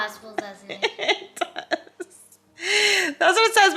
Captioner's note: laughing